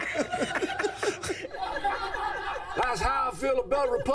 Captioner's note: all laughing; all laugh